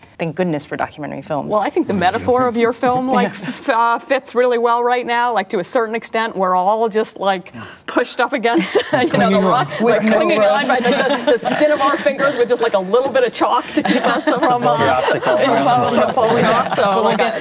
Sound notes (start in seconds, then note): 8.6 laughing